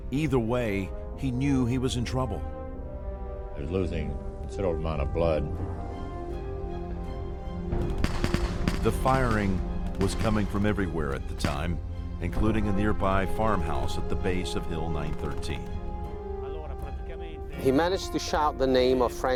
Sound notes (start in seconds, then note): 5.9 dramatic music; 5.9 gunshots popping; 17.7 voiceover